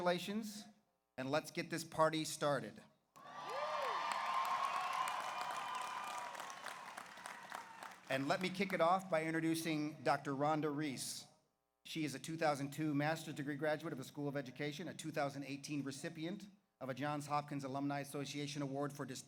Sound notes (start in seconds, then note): 3.2 audience cheers; 3.2 audience applauds